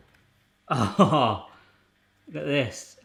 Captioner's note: laughs